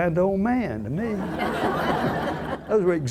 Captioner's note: audience laughs